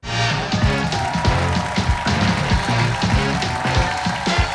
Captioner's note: cheers and applause